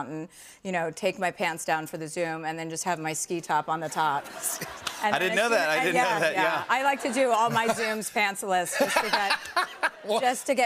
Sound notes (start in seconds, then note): 4.2 laughter